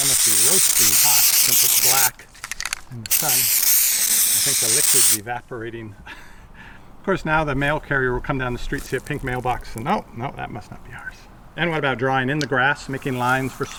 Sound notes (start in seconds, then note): 6.0 chuckles